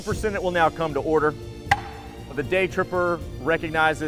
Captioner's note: slamming gavel